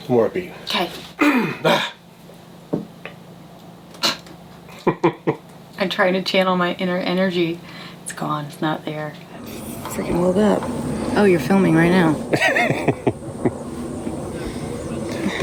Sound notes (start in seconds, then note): 1.2 clearing throat; 4.7 both laughing; 12.3 laughs